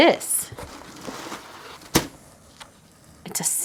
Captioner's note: paper scraping